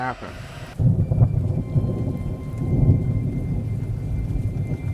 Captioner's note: thunder booming